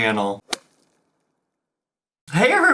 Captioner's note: whip cracks